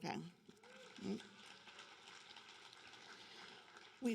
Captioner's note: applause